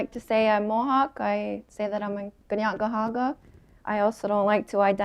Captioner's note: speaking her language